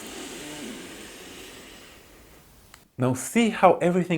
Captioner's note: inhales deeply